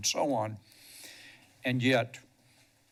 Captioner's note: sniffles